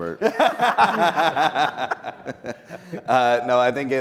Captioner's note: people laughing